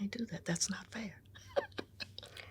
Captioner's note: laughs